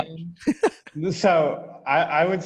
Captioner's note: laughing